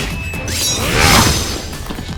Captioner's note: grunt